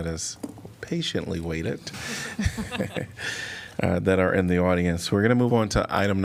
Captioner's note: laughter